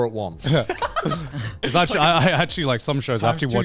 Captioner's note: laughs